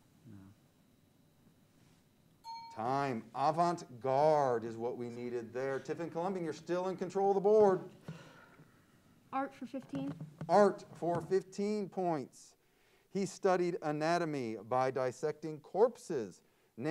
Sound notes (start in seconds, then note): 2.4 bell pings